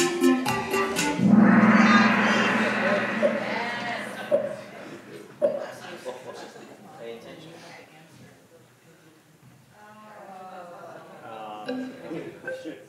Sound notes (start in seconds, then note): 1.1 gong bangs